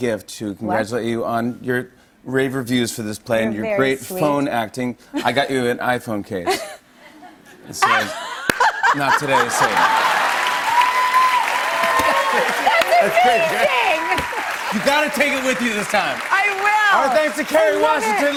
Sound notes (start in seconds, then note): 6.4 laughter; 10.4 cheers and applause